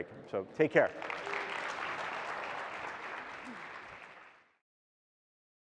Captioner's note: audience applauding